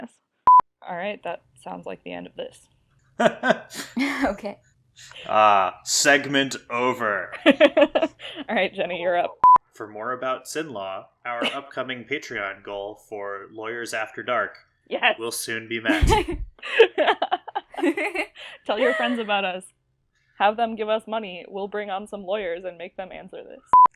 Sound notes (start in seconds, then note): 3.2 laughs; 15.8 laugh